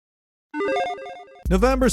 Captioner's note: electronic chiming